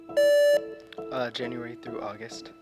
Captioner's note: contestant beeping